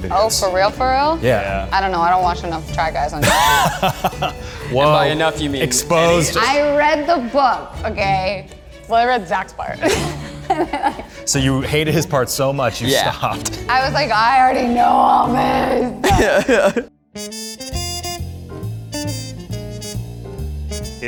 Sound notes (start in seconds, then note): 3.2 laughs; 9.8 laughs; 17.5 soothing music